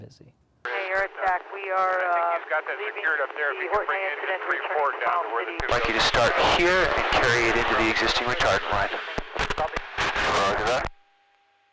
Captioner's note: busy, congested radio traffic